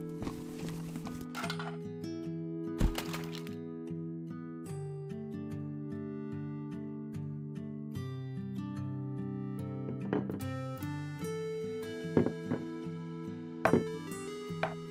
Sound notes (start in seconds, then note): 0.0 plastic rattling; 2.8 thud; 9.8 plastic taps